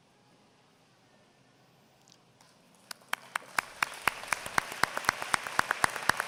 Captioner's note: applause